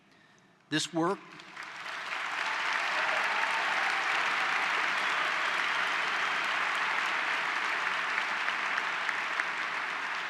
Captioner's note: applause